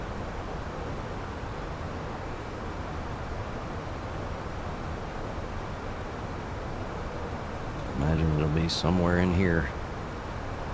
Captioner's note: radio chatter